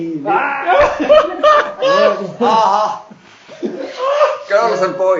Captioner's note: laughing